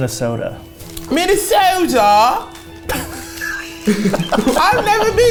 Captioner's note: both laugh